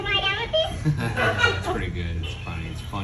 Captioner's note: chuckles